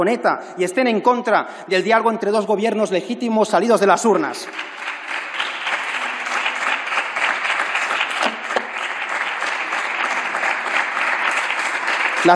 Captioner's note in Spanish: Aplausos